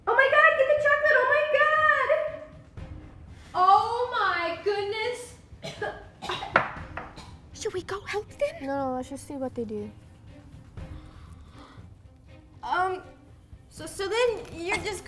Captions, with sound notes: -Oh My God! Get the chocolate! Oh My God! -Oh my goodness! (Coughing) -Should we go help them? -No. Let's just see what they do. Um...so then you're just gonna..